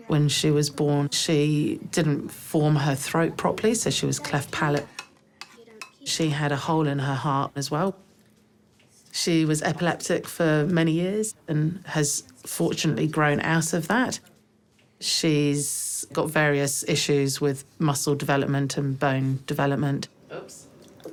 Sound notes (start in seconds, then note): none